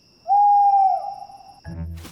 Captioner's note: owl hoots